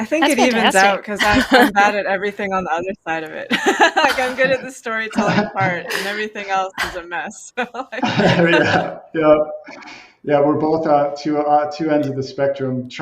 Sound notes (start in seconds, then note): 6.7 laughs